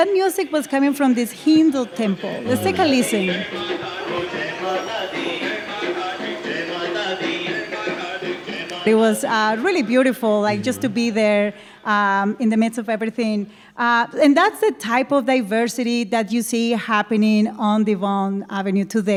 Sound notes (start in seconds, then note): 1.7 soundbite of archived recording